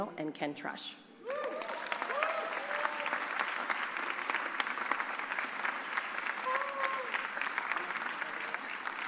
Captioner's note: applause